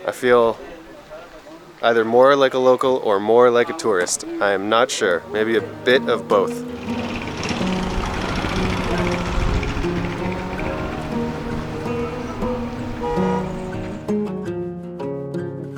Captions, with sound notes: I feel either more like a local or more like a tourist. I am not sure, maybe a bit of both. (motorcycle putters) (pensive string music)